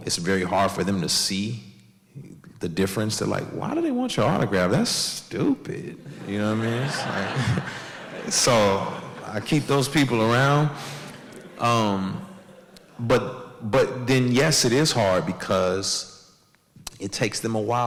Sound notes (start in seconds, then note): 7.4 audience laughs